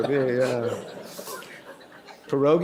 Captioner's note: laughter